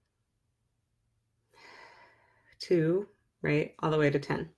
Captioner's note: breathes